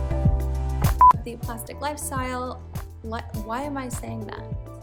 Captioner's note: beep